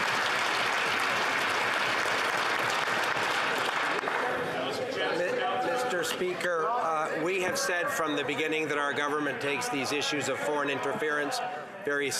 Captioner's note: some Applause